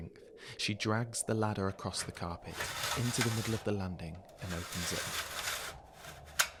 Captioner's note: creak